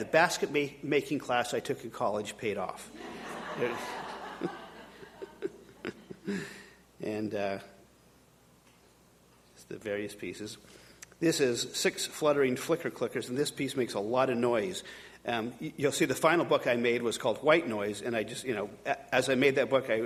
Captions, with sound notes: the basket-making class I took in college paid off. (audience laughing) These are the various pieces. This is six fluttering flicker-clickers and this piece makes a lot of noise. You'll see the final book I made was called White Noise and I just, as I made that book,